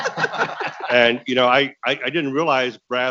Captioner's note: people laughing